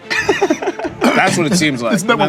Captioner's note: laughs